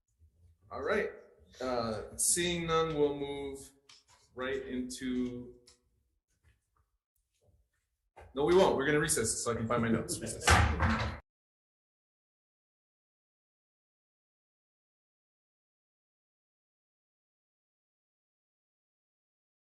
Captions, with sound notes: All right. Seeing none, we'll move right into- No we won't, we're gonna recess so I can find my notes. (people laugh) (gavel bangs) Recess. (silence)